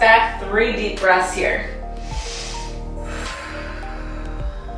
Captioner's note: breathing deeply